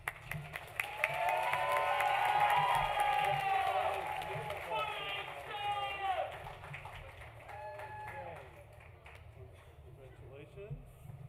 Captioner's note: applause